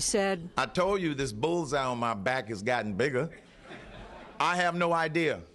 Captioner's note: laughter